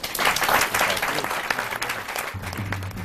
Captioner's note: applause